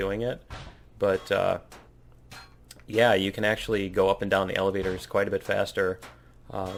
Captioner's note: pinging